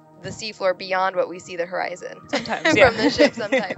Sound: laughs

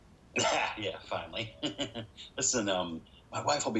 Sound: Willy laughs

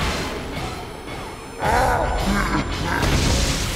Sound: groaning

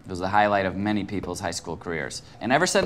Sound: none

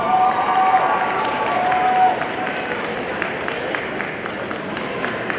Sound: audience cheering and applauding

